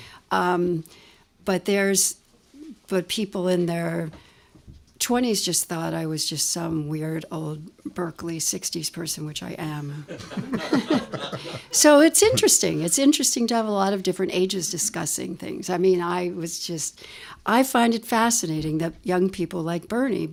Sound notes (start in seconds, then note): 10.0 laughter